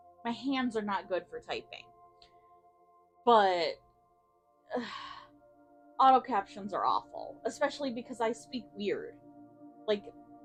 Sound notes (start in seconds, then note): 3.6 sigh of disgust at autocaptions